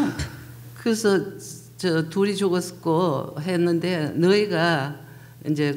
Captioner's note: speaking foreign language